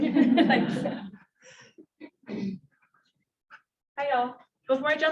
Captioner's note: audience laughs